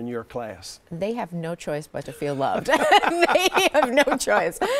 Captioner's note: both laughing